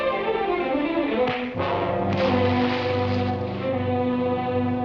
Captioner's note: dramatic orchestral music; fist thuds